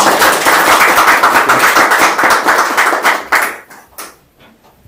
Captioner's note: applause